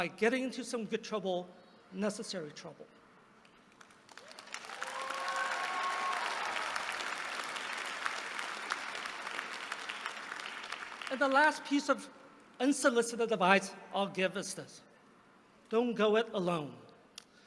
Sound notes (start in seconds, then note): 3.7 applause